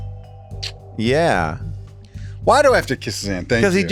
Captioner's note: lips smack